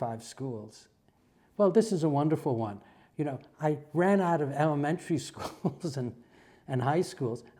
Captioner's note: laugh